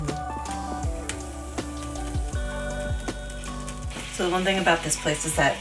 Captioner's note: crinkles